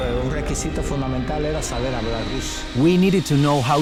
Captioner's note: spanish